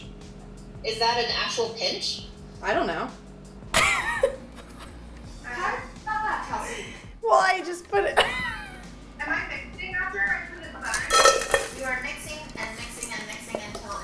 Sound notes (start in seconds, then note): 3.7 laughs; 8.2 laughs; 10.8 cookies rattle